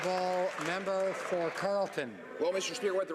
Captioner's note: some Applause